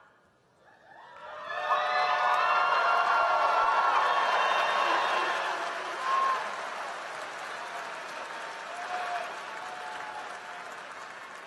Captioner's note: applause